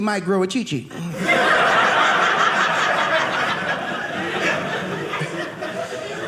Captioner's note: audience laughing